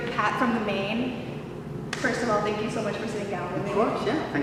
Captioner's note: claps hands together